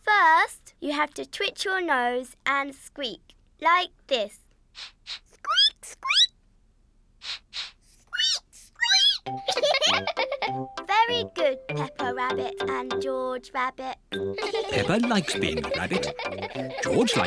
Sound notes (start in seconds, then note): 4.7 sniffs and squeaks; 7.2 both sniff and squeak; 9.7 giggling; 14.3 all giggle